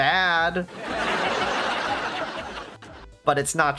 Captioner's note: laugh track